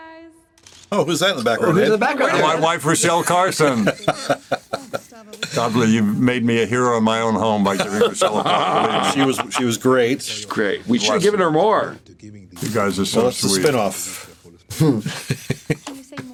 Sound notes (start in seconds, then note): 4.5 laughs; 14.6 chuckles